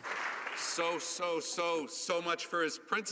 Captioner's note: some Applause